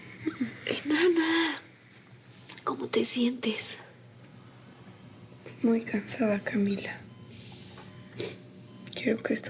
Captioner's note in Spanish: sonido del monitor